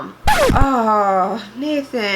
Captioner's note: jarring screech